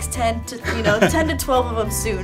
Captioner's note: laughing